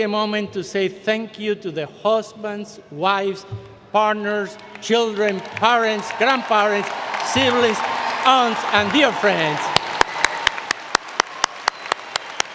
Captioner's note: cheering and Applause